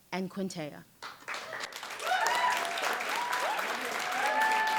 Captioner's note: applause and cheers